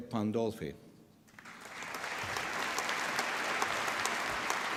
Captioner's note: applause